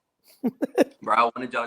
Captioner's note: laughs